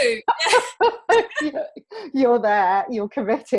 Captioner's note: both laughing